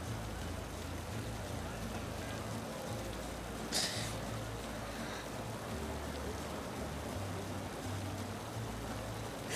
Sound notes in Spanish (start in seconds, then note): 0.6 Sollozos